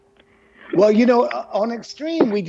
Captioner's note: laughs